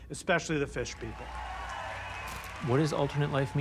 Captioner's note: audience cheering, applauding